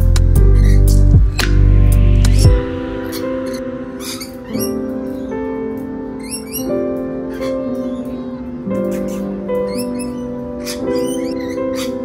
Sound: birds chatter

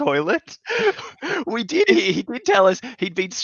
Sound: both laughing

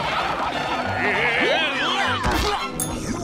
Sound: grunting

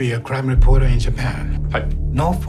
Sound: speaking in japanese

